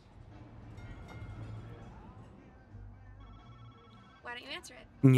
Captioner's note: phone ringing